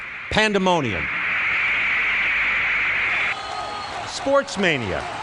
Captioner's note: recording of crowd roaring